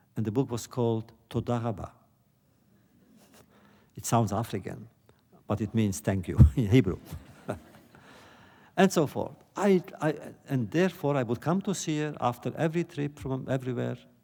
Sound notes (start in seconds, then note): 7.0 laughter